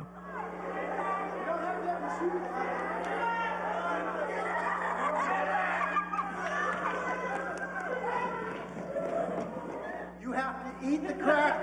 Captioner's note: laughter